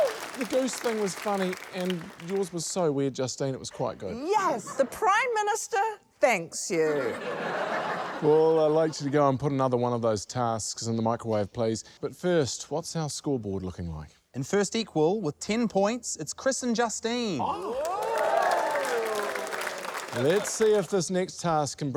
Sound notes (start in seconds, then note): 6.8 laughter; 17.5 cheering, applause